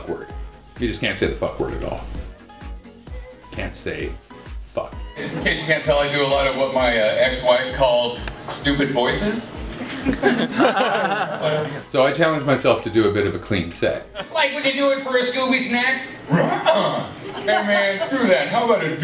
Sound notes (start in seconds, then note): 9.7 laughing